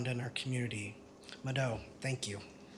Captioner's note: non-english speech